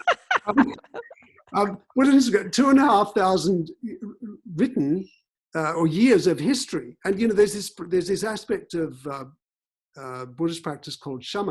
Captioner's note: both laughing